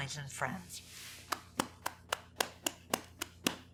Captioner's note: claps